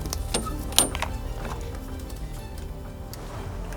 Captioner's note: latch clinking; dramatic orchestra music